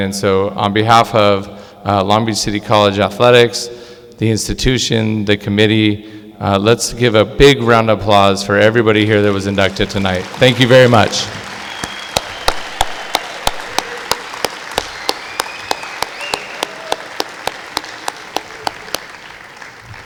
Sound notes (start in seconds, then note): 12.0 clapping